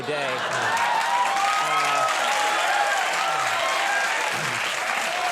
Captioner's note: audience clapping